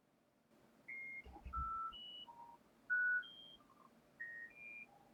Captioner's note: beeping noises